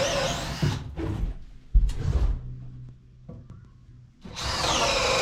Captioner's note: drill whirring